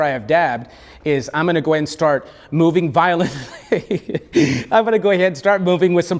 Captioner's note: laughs